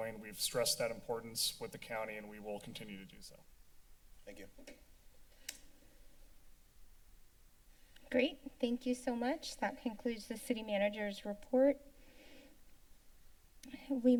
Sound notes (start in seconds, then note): 4.9 mic off; 5.4 clicking sound; 6.5 silence; 11.8 pause